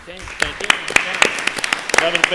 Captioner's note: applause